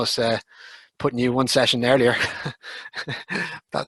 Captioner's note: laughs